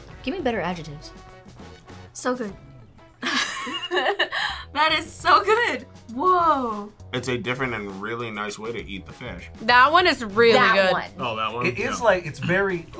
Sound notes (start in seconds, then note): 3.2 laughs